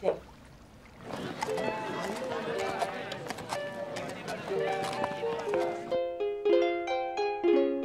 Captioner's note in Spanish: gente charlando